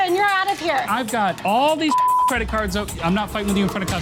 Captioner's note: beep